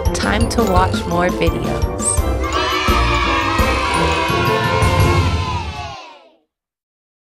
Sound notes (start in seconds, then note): 2.4 children cheering